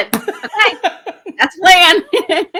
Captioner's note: laughing